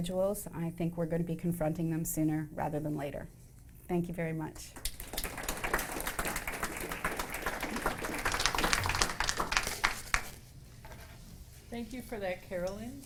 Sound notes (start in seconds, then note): 4.9 audience applause